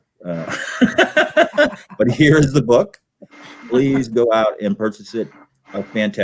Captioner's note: laughter